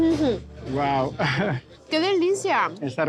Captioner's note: chuckles